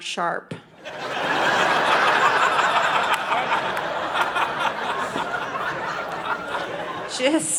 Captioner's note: audience laughing